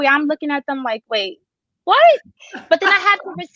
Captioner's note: chuckles